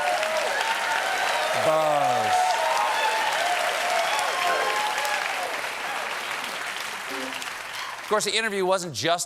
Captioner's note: cheers and applause